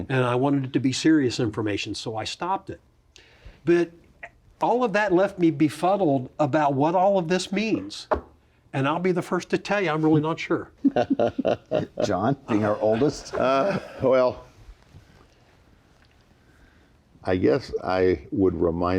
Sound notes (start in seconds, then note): 8.0 hands hitting table; 10.8 others laugh